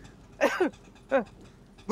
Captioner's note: coughing